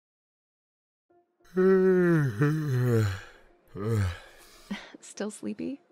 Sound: yawns

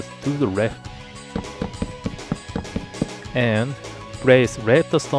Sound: plonk plonk plonk plonk

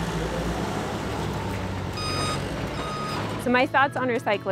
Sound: fork lifts revving and beeping

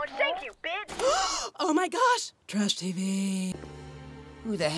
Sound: gasp

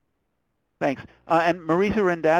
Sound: voiceover

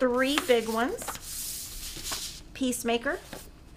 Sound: papers shuffling

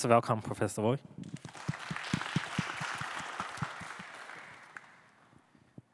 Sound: audience applauding

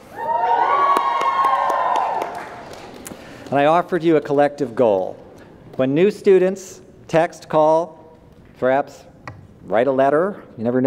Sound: applause

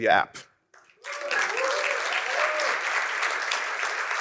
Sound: applause

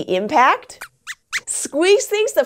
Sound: squeaks squeaks

